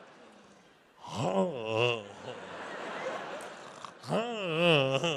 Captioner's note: audience laughs; Bert moans